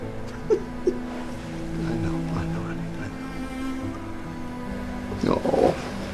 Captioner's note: continues softly sobbing